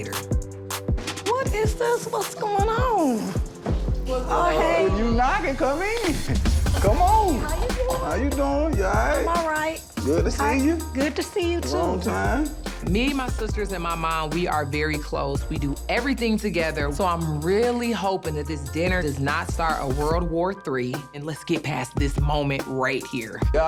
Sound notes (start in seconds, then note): 0.2 chill hip-hop music; 7.3 laughs; 9.6 thumping hip-hop music; 19.2 thumping hip-hop music